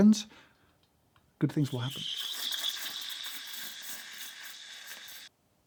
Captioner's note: steam wand hissing